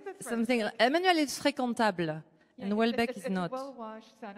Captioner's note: french